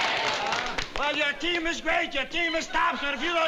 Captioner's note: cheering; clapping